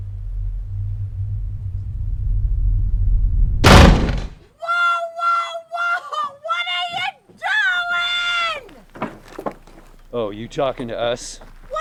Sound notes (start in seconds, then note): 3.6 loud banging; 8.2 boards clunking